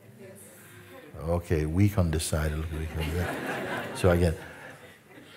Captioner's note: Lachen